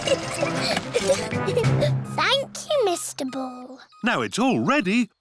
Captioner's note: giggling